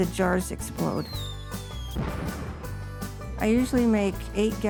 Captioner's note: whistle sliding; explosion rumbling